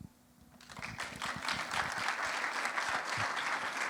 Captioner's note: applause